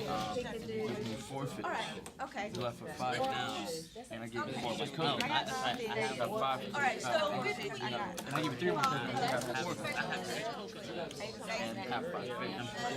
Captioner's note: students murmur